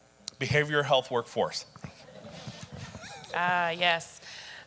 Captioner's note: laughs